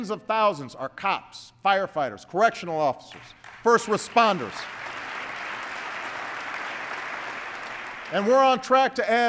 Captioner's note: applause